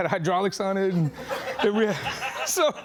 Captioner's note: laughing